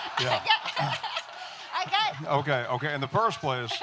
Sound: audience laughing

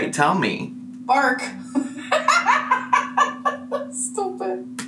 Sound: laughs

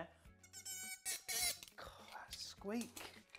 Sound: squeaking

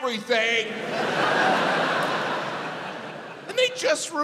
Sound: audience laughs

